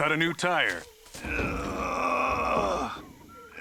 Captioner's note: grunting